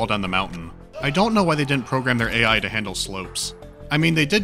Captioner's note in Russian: крик